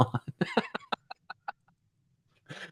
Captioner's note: laughter